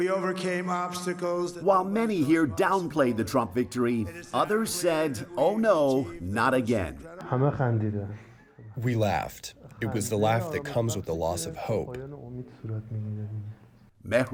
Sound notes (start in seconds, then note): 9.3 through translator